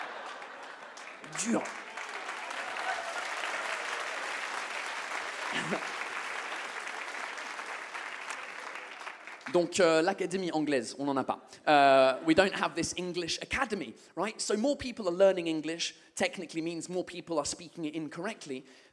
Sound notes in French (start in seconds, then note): 0.1 le public commence à applaudir; 2.4 le public applaudit